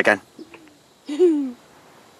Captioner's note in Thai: เสียงหัวเราะ